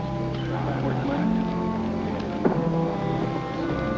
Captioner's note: men chattering